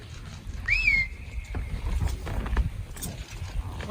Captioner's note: whistle